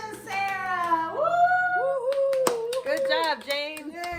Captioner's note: whooping